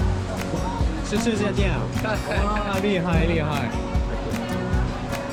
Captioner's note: huge crowd